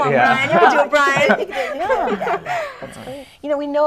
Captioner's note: laughter